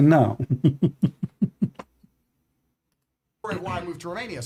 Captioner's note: Ketawa